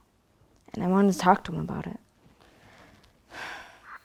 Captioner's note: sighs